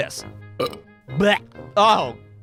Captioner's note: burp... bluergh!